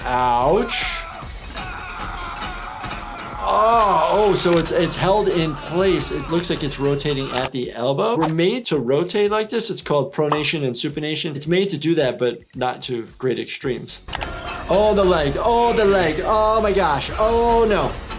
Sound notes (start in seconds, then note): 0.3 person screaming